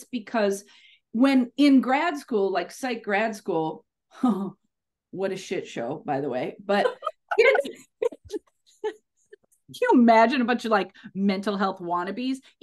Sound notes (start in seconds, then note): 6.7 laughs